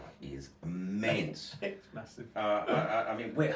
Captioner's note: laughs